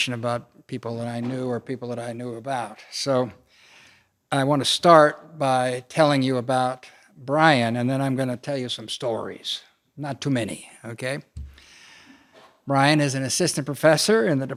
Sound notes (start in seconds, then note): none